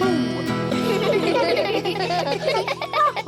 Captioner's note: all giggle